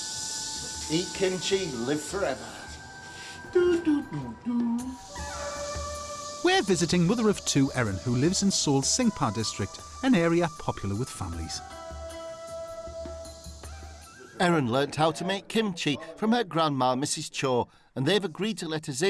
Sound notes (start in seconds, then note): 4.6 mimics elevator sounds